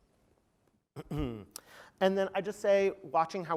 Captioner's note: cough